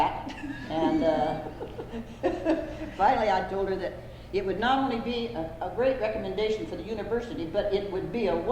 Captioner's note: laughter